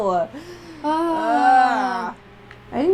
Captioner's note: laughing; groan